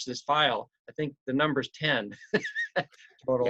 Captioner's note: laughs